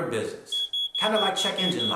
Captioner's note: beeping sound